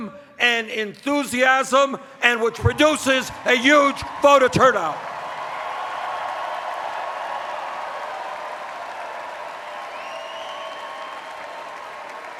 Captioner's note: cheers